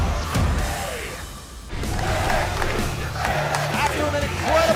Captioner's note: fans chanting